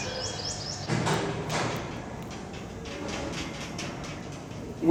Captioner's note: metallic clang of doors closing